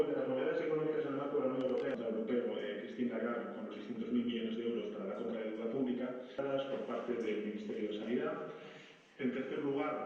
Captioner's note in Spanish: voz en off del Presidente Pedro Sánchez